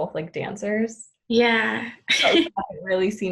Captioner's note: laughs